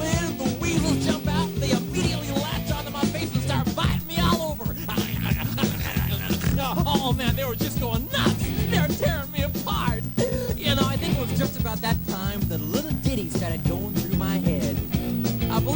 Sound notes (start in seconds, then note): 4.9 weasel fighting sounds; 10.1 inhale